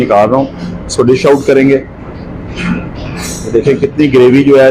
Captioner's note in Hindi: गला साफ़ करने की आवाज़